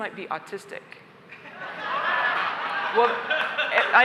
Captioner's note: laughter